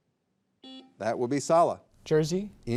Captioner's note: buzzer buzzing